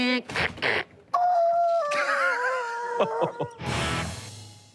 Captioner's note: squeals